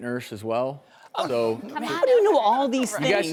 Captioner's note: chatter on stage